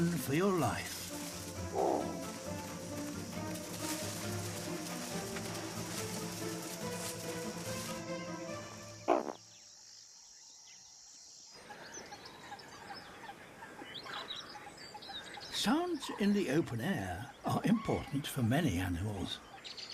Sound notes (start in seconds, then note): 9.4 grunts; 11.5 birdsong and cackling